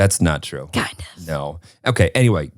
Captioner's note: whispers